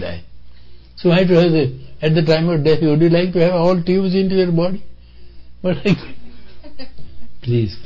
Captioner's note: laughter